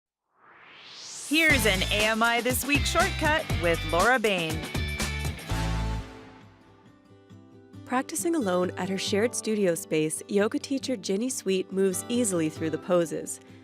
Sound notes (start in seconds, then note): 0.3 swoosh